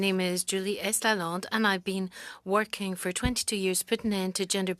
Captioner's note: speaking French